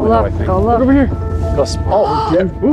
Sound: gasps

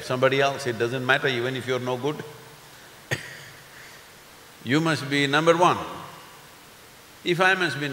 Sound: laughs

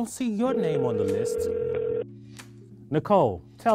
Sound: phone rings

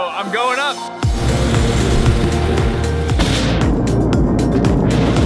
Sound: fire roaring; upbeat music

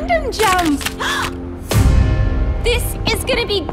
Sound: gasps

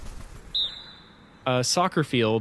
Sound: wingbeats; referee whistle

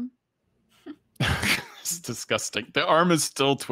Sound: laughs

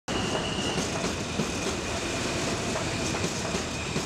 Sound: subway train passing

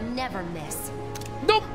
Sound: camera Click

